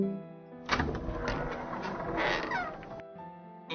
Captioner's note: Door to inside the Capulet sepulchre opens